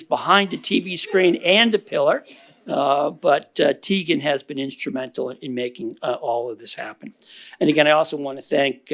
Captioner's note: laughter